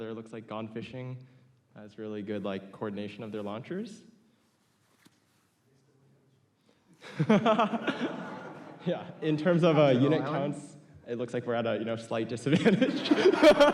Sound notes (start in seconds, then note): 7.0 laughs